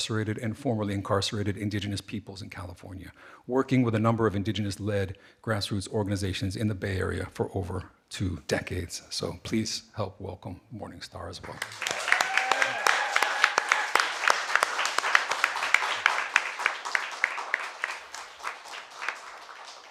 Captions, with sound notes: and formerly incarcerated indigenous peoples in California, working with a number of indigenous led grassroots organizations in the Bay Area for over two decades. So please help welcome Morning Star as well. (audience applauding) (audience cheering)